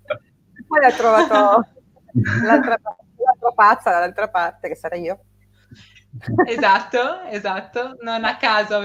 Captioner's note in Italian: risate